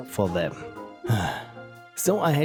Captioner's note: sigh